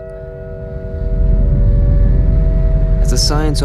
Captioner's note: ship rumbling